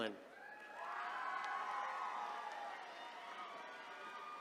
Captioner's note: attendees cheering